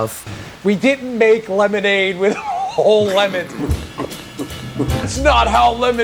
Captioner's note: mouth sounds